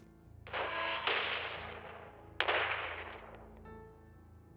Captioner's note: explosions on TV